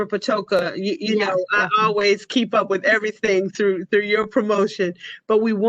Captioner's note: laughter